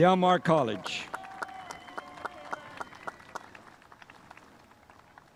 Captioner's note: spectators applauding